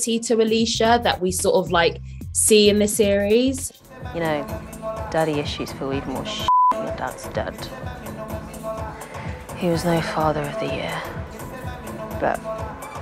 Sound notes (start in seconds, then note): 6.4 beep